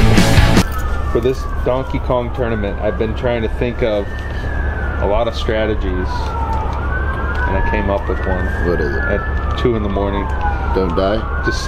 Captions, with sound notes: For this Donkey Kong tournament, I've been trying to think of a lot of strategies, and I came up with one. (police sirens blaring) - What is it? - At two in the morning. Don't die?